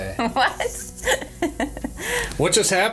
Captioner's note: laughs